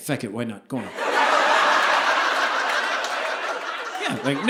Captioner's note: audience laughing